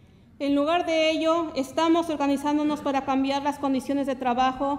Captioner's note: speaks Spanish